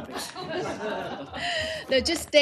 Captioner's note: laughter